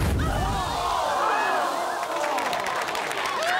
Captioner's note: explosion; applause